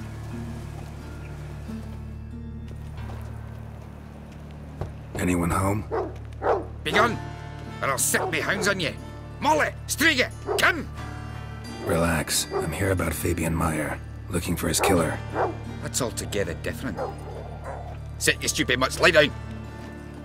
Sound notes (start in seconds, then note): 4.6 knock; 5.8 dogs barking